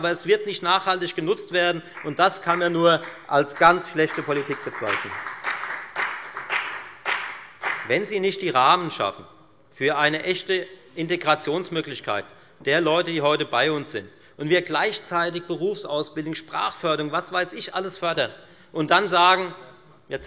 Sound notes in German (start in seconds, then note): 4.9 Beifall bei der FDP